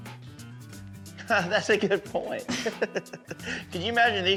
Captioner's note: chuckles